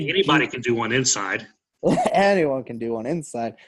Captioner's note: laughs